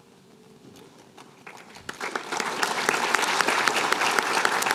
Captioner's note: applause